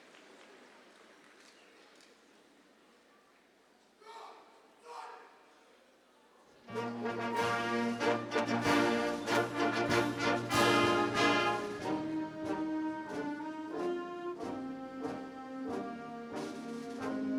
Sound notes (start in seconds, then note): 4.1 leader shouts; 6.6 regal orchestral music